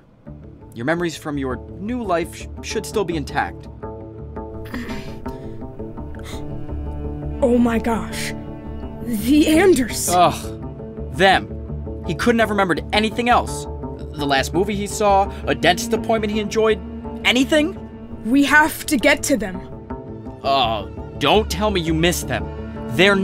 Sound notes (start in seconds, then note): 4.6 groans